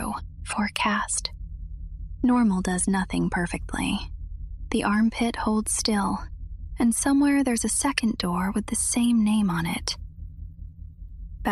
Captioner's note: whispers